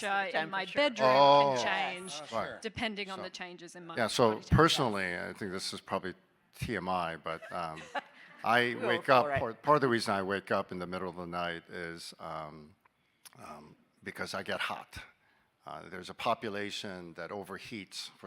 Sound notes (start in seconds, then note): 1.9 people chattering; 7.2 people laughing